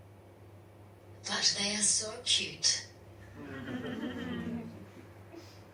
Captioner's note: audience laughs